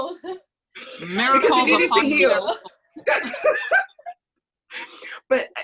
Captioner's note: laughs; laughs